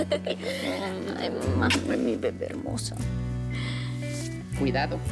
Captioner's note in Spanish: Risas